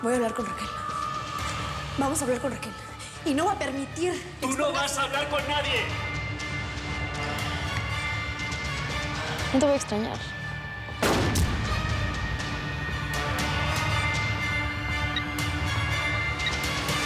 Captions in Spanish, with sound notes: >> VOY A HABLAR CON RAQUEL. VAMOS A HABLAR CON RAQUEL, ¡Y NO VOY A PERMITIR QUE...! >>¡TÚ NO VAS A HABLAR CON NADIE! >> NO TE VOY A EXTRAÑAR. [DETONACIÓN DE DISPARO]